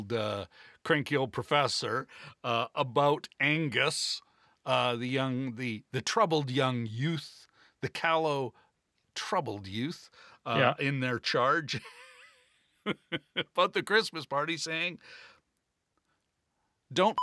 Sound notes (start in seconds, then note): 11.7 laughter